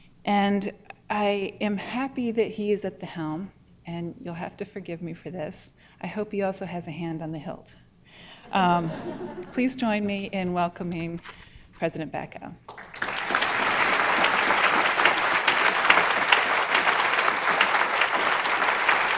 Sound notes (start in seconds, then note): 12.6 applause